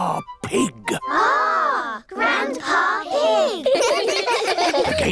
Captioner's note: giggling